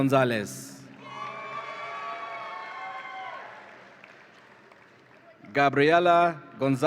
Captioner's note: audience applauds and cheers